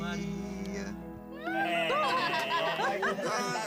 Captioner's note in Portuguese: todos rindo, aclamando